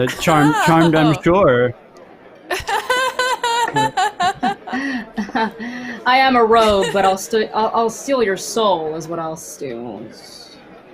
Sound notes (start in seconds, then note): 2.5 laughs